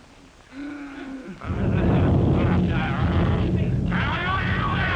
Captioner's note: groaning; low rumbling; aggressive yelling